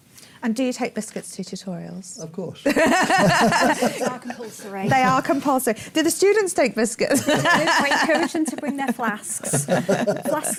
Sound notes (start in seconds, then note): 2.6 laughter